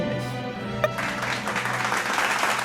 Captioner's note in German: Applaus